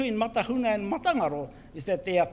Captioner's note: foreign Language